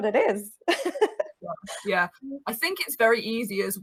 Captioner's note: chuckles